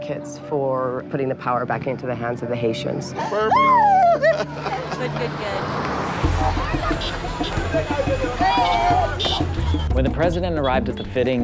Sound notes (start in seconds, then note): 3.2 laughter